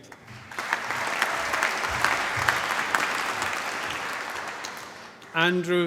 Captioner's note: applause